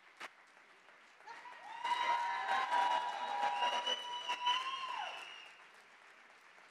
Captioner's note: audience cheers and applause